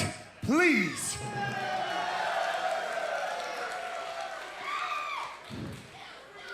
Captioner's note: crowd cheering